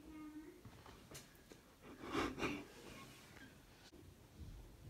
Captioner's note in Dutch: lacht